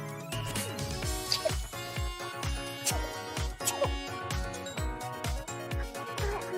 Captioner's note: sneezing sound